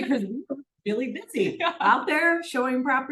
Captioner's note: laughs